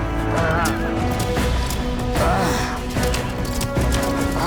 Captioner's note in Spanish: Quejidos